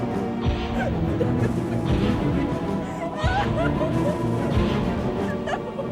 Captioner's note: dramatic music continues; Nancy crying; footsteps thudding